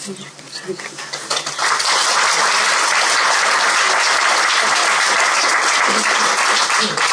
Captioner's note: applause